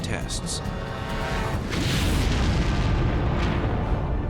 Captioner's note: explosion